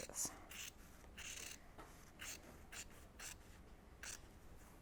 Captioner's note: scissors snipping